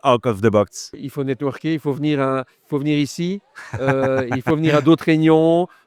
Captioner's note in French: Rires